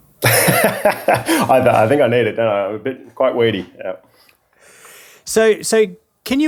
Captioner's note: laughing